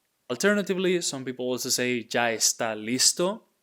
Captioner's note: speaking in Spanish; speaking in Spanish